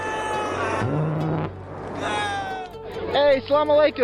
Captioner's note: engine roars